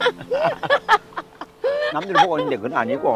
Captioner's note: both laughing